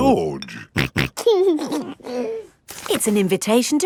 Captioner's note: snorting and giggling